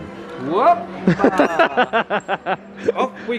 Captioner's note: laughing